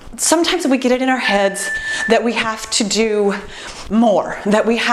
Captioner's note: timer beeps